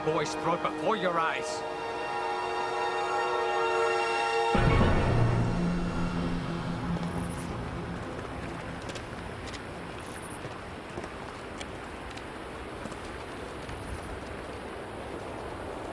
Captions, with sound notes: the boy's throat before your eyes. (water running) (footsteps)